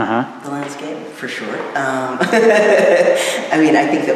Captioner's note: laughing